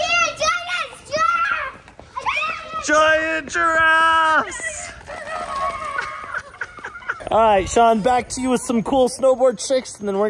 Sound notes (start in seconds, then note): 3.9 mom laughing